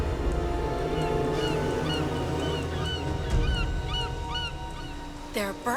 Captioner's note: seabirds cawing